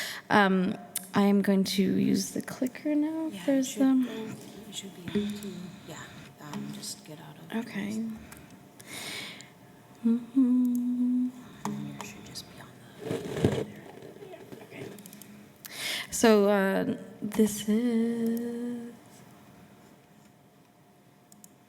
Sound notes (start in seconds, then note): 10.0 hums